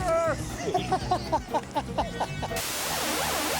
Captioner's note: laughing